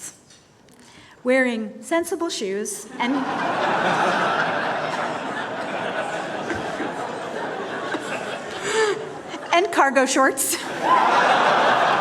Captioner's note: laughter